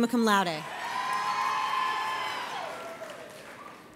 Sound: audience cheers

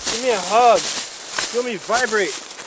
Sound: leaves rustling

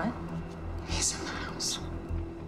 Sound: whispers

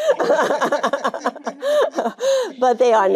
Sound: Jane laughing

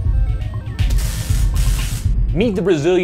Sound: upbeat music; static

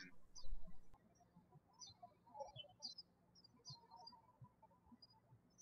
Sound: birds chirping

